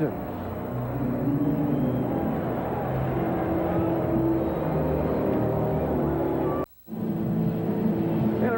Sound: ambient ballpark noise

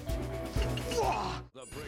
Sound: grunting

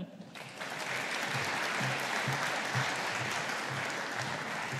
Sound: audience applauding

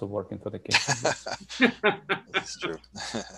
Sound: laughing

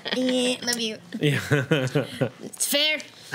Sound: group laughs; laughs

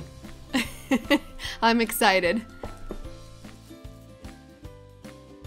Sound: chuckles

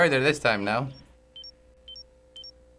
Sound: beeping

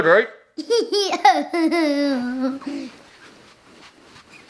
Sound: laughing

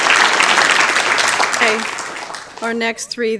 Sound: applause

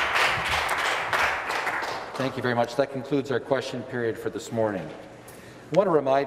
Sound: some Applause

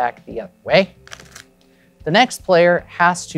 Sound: cards riffling

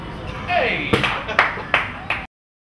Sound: solid smack; clapping

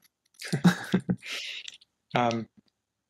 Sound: laughing

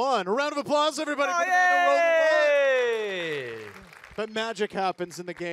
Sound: audience applaud

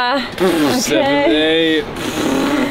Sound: making fart noises

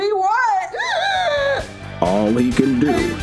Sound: shrieks

